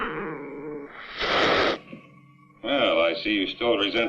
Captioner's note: hisses